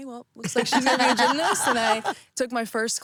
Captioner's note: laughing